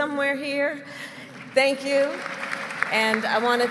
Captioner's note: applause